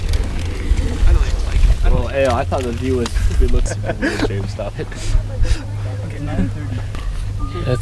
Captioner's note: crowd chatter